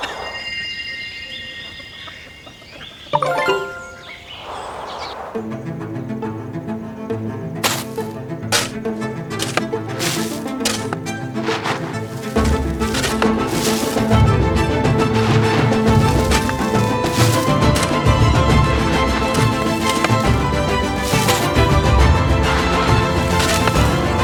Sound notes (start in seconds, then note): 3.1 notification; 7.6 digging